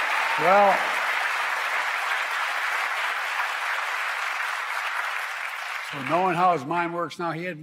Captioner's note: applause